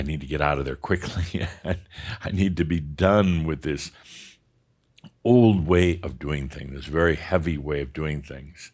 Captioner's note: chuckles